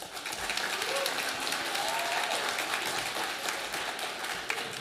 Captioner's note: audience applauding